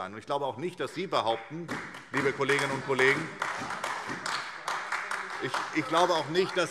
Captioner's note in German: Beifall SPD und AfD - Zuruf DIE LINKE